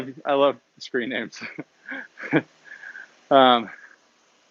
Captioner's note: laughs